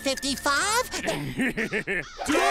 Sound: laughing

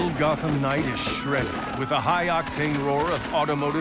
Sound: gunshots, shouting

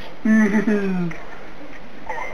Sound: laughing

